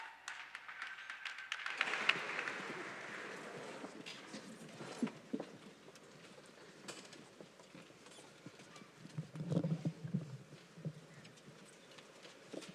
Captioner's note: applause